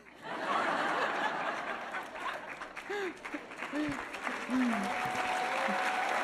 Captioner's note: audience laughing and applauding